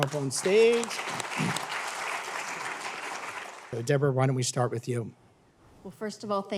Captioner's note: applause